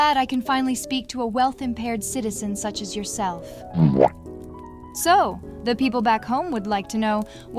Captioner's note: womp sound effect